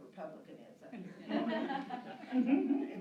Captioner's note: laughter